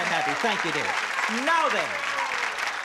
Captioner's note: applause